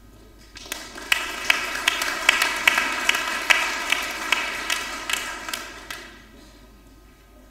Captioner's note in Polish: oklaski